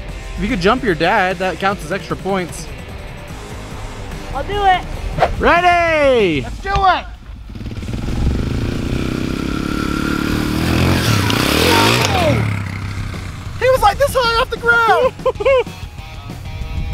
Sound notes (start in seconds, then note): 7.9 dirt bike engine reeving